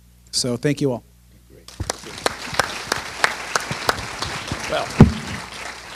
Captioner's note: applause